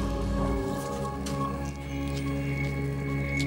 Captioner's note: loud crunching